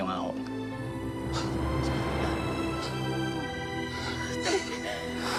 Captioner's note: breathing heavily; inhales sharply